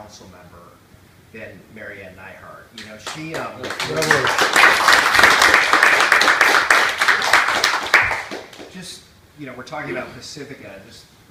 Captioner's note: applause